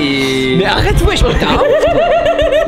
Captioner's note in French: rire